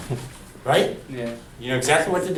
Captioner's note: voiceover